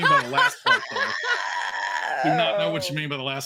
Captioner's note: actors laughing